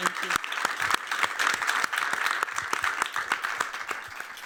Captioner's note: applause